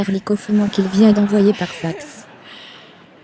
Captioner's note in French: des rires